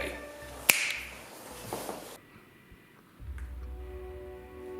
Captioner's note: snaps to summon guard